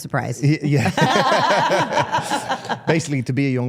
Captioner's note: all laughing